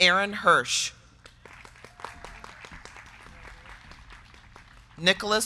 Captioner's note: crowd clapping